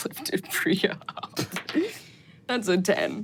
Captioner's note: dice rolling